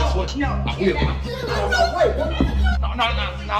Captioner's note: Ruth exclaiming